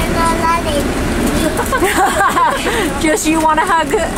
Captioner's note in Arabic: يضحك